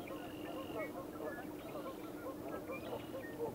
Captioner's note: birds squawking